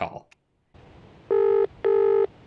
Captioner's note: phone ringing